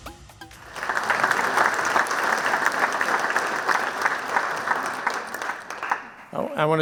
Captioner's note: music fades out; clapping